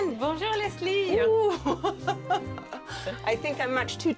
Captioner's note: laughs